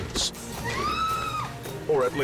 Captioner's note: woman screams